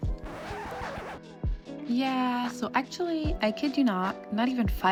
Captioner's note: scratching vinyl to stop